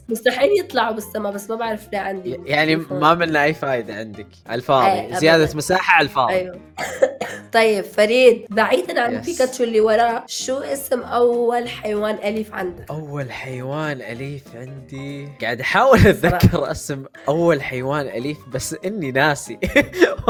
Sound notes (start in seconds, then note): 6.7 coughs; 19.6 chuckles